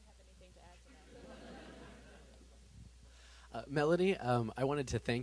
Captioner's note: laughter